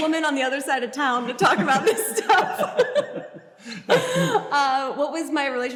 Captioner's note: Grace and Hank laugh